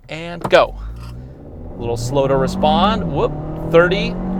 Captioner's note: engine revving